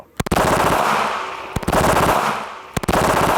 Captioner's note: gun fires